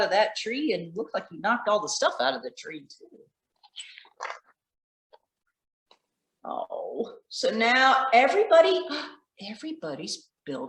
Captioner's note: gasp